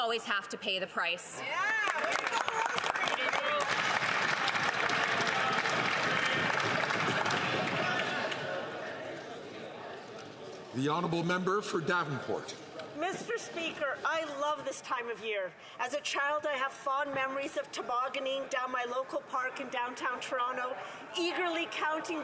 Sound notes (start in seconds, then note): 4.5 some Applause